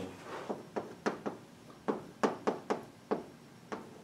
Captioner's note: chalk tapping